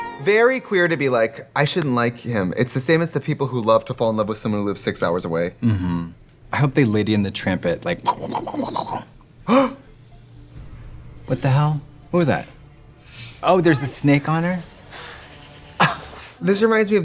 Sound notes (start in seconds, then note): 7.6 nibbling; 9.4 Trixie gasps; 15.6 Katya laughs